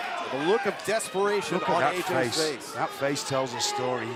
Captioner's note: crowd chatter